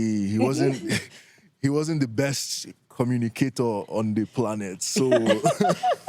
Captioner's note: chuckles